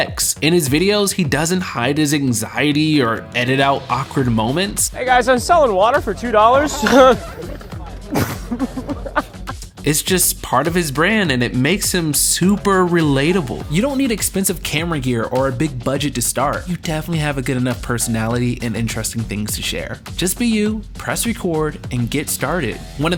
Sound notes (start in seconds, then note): 6.0 Ryan laughs